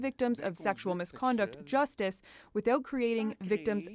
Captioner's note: speaking French